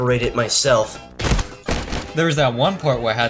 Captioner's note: body slamming against wall